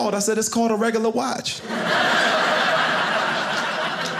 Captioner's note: audience laughing